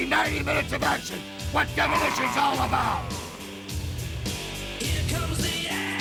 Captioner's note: wrestlers growling